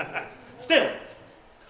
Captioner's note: evil chuckle